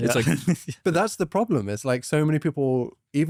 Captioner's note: laughs